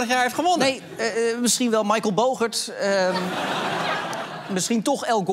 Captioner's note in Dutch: gelach